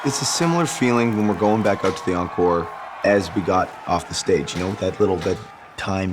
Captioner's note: applause